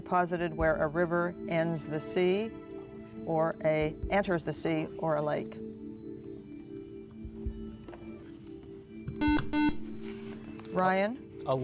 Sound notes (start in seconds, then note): 5.6 whispering; 7.5 buzzer